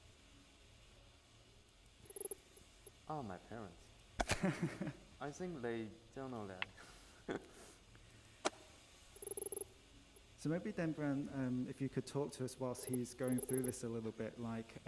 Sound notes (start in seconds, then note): 4.2 laughs